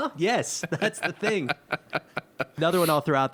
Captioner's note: laughing